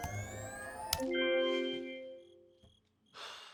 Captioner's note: keyboard clacking; sighs; cricket chirping